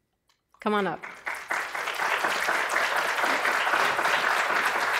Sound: audience applause

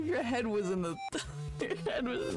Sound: laughing

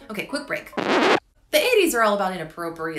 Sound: record needle scratching

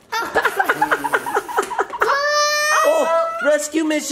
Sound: laughs; cries

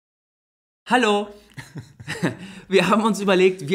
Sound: laughs

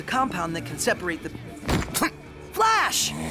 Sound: grunts

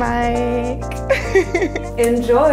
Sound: laughing

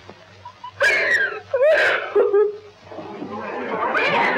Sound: sobbing

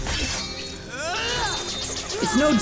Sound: grunting

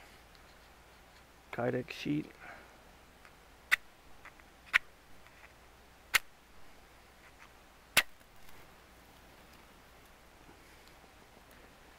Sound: match striker

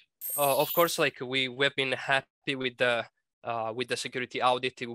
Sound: voiceover

